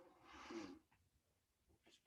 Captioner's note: inhales